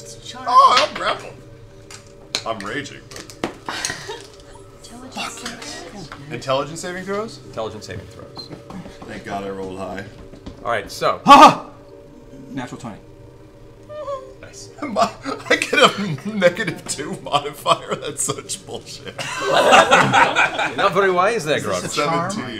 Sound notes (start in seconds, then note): 13.8 laughs; 19.0 laughter